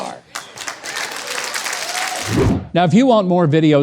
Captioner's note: audience applauds